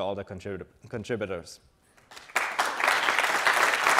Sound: audience applauds

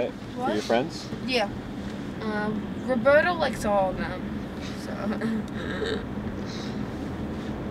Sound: laughs

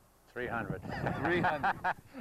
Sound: laughter

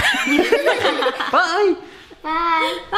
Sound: all laughing

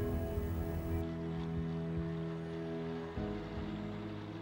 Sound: waves lapping

